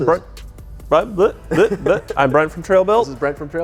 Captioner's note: stammers